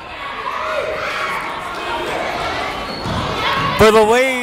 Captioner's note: yelling